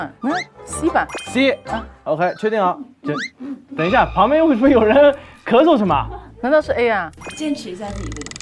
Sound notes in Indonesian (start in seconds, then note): 3.1 Batuk-batuk